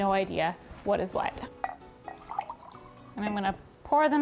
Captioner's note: cups clinking